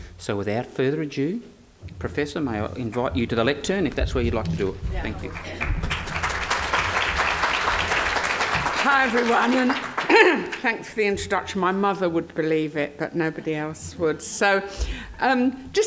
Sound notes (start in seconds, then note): 5.0 audience applause